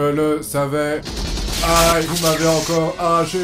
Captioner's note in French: Tirs de machine gun